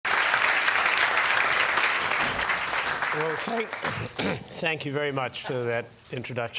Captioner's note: applause